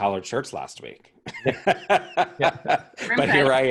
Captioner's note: laugh